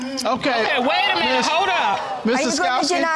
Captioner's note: audience exclaiming